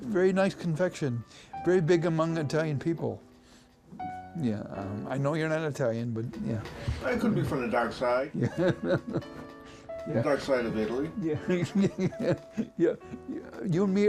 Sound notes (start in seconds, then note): 8.4 laughs; 11.4 laughing